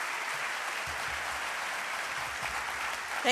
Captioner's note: applause